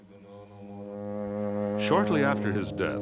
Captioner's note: a long horn sounds